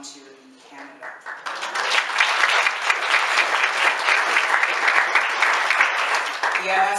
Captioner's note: applause